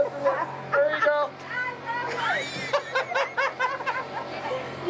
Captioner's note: laughing